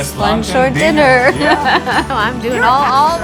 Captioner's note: laughs